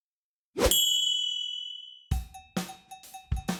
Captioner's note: whooshing; bell ringing; upbeat salsa music